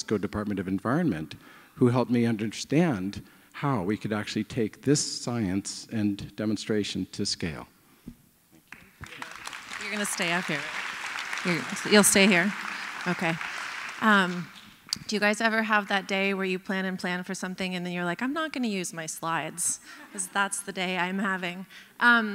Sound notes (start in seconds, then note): 8.7 applause